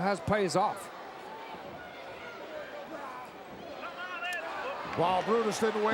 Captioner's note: crowd murmuring